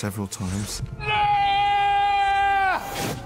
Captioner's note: screams